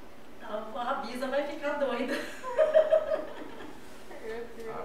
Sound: laughs

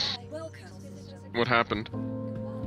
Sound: on the radio

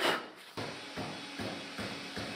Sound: drumming, hammering

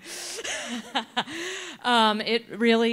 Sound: chuckles

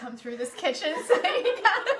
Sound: laughs

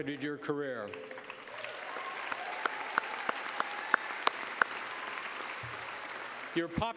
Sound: applause

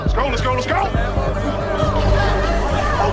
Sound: coughing

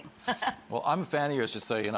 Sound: Rachel laughs

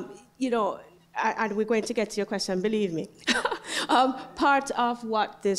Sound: laugh

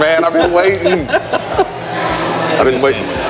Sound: laughs

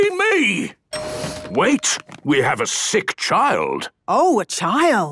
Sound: door dings open

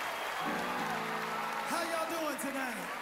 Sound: cheering, applause

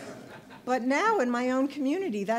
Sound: audience laughter

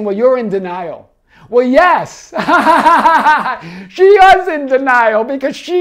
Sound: laughs

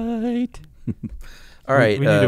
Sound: chuckling

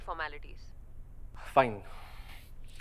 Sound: sighs

